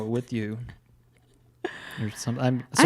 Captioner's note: laughs